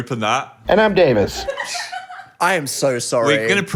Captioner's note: speaker laughs